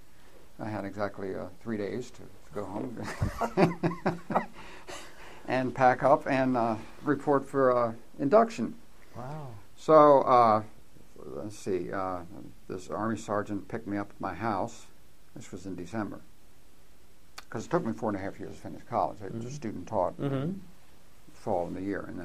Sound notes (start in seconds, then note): 3.0 laughs